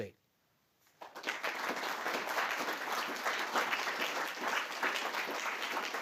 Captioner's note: applause